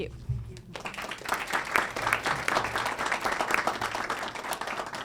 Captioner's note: audience applauds